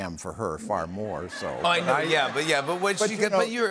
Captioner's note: laughter